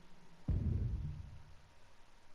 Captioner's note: dramatic sound plays